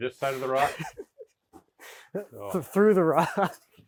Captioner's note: speaker laughing